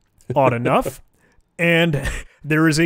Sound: laughing

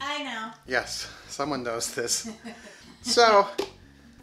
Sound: woman laughing

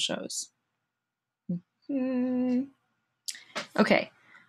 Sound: humming

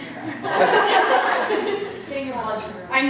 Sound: laughter

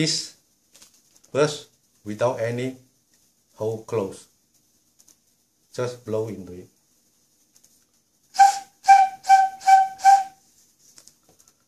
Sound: blow sound

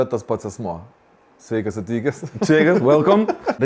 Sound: chuckles

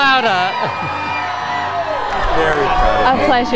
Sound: cheering

